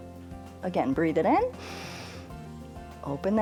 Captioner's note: inhales